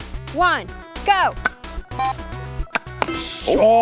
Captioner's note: swears; gun pops